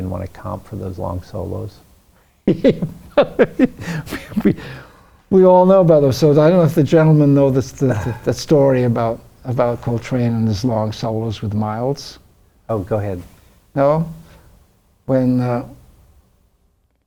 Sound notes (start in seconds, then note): 2.5 laughs